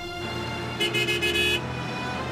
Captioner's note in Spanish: Suena la bocina